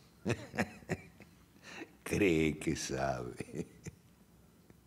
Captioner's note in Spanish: Risas